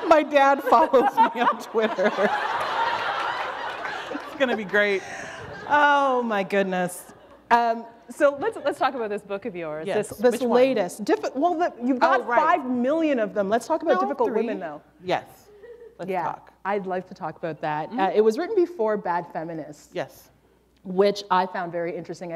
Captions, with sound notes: My dad follows me on Twitter. [laughter] It's gonna be great. Oh my goodness. So let's talk about this book of yours, this latest. Which one? You've got 5 million of them, let's talk about Difficult Women, though. Yes, let's talk. I'd like to talk about that. It was written before Bad Feminists, which I found very interesting.